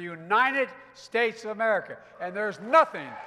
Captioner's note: applause